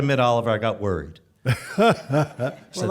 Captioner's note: chuckling